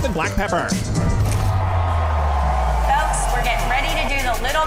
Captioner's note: crowd cheering